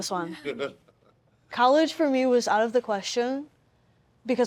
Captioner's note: laughs